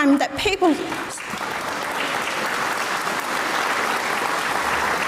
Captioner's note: audience applauds